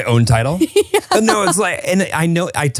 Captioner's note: laughs